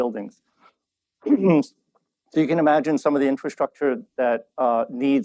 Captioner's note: clears throat